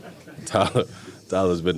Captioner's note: reporters and DK laughing